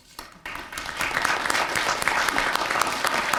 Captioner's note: applause